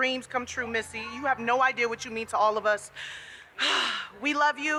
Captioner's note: sighs